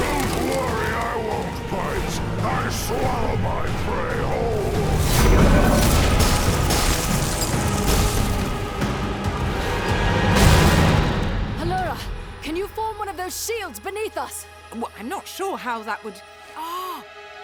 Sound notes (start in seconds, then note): 4.0 dragon bellows; 5.0 rocks crashing; 9.3 dramatic music